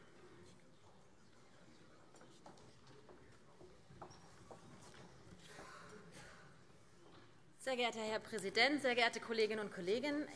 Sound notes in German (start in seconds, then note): none